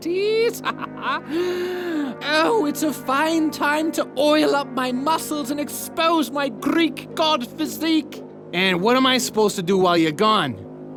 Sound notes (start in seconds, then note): 0.1 laughs; 1.2 gasp